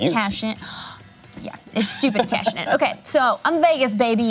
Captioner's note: gasps